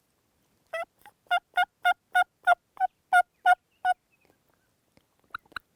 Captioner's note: turkey calling